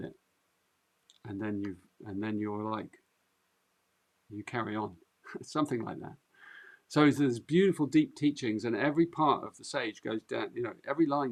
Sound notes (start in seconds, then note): 5.2 chuckles